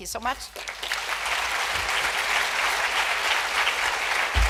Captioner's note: applause